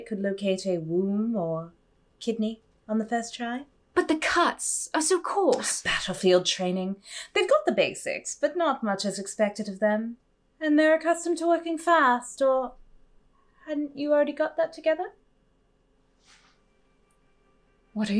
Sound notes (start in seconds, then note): none